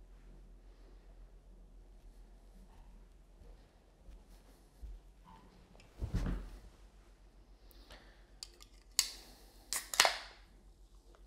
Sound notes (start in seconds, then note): 6.0 sofa thuds as they sit down; 7.7 breathes in, as if preparing; 8.9 breathes out; 9.7 soda can cracks open; 9.8 metal soda can clinks